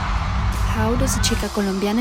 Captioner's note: audience cheering